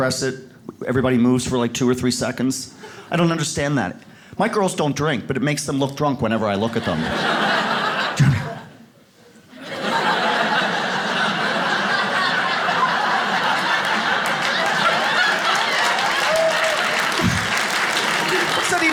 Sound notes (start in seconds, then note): 7.6 audience laughs; 12.2 audience claps